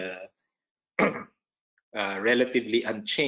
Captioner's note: coughing